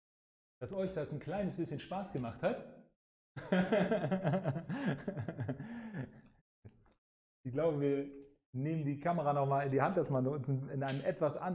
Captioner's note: laughs